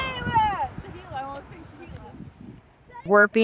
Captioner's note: people chattering